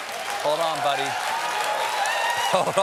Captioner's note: laughter